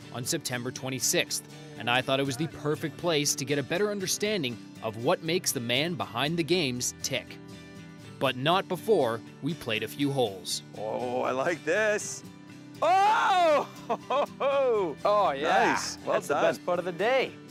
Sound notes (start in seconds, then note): 13.4 laughs